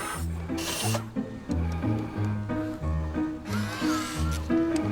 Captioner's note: robot whizzing & clicking